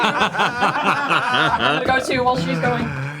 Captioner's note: all laugh